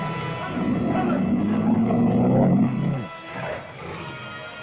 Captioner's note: lizard growls; dramatic music; lizard roars; dramatic music